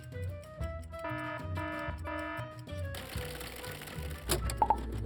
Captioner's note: alarm buzzing